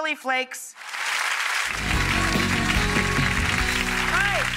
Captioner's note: audience applauding